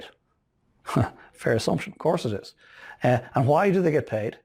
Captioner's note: laughing